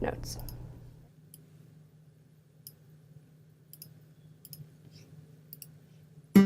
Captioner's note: mouse clicking